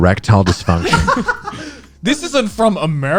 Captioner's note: guys laughing